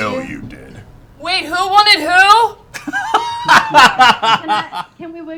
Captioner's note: yelling